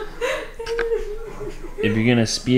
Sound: laughing

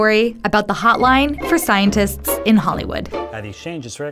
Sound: phone ringing

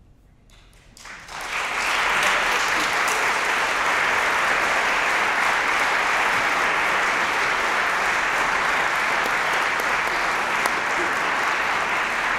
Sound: applause

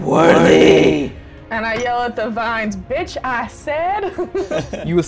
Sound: laughter

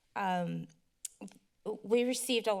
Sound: clicks tongue

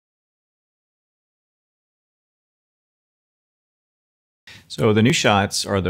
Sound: silence

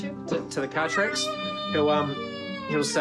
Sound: wails

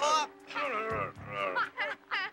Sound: thugs groaning; Sid and Ray laughing

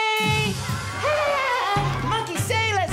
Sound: laughter

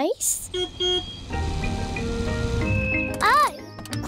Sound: car horn beeps

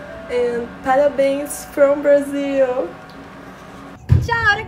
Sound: in foreign language

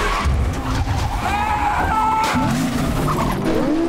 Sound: screaming

